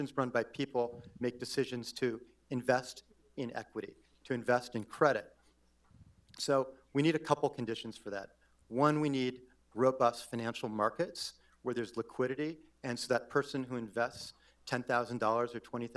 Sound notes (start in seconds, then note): none